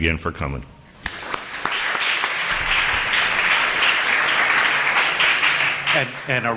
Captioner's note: applause